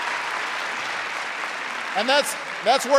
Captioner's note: applause